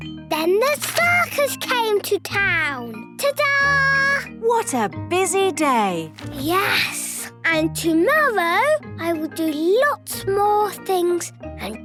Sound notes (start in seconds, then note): none